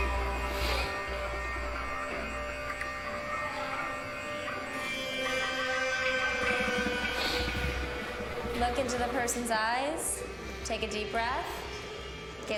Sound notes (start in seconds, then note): 0.2 抽鼻子; 0.4 sniffles; 6.5 抽鼻子; 7.1 sniffles